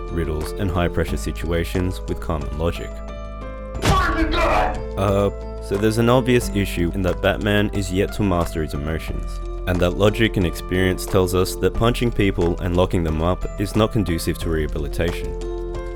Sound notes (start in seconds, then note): 3.8 boff!